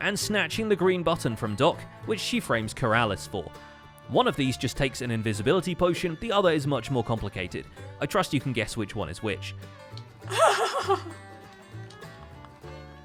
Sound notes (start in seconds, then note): 10.3 laughs